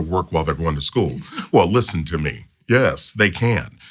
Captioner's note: laughs